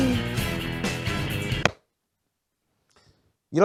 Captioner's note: claps